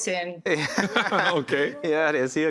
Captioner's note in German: lacht